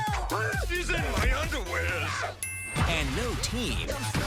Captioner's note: ding